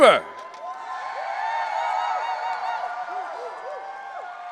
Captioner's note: audience cheering